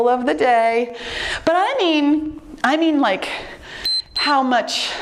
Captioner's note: timer beeps